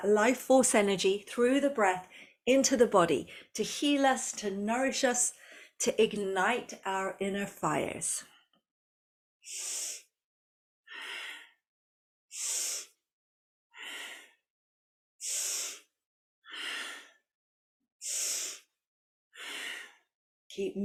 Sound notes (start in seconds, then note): 11.1 breathes